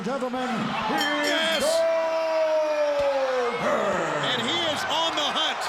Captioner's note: bell rings